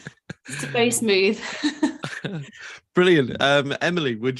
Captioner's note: laughs